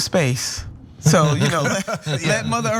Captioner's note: laugh